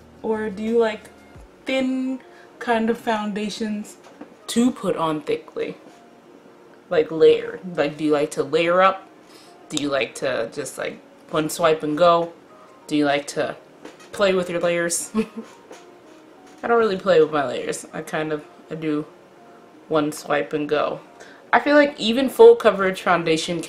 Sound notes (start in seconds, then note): 15.2 laughs